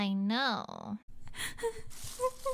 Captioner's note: sobbing and Rustling